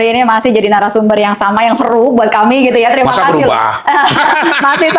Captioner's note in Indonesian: tertawa